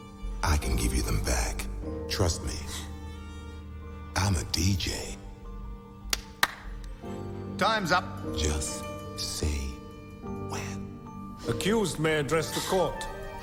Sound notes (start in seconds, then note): 6.1 Harry claps